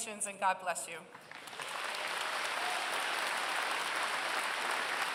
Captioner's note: applause